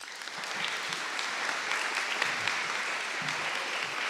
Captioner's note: audience applauding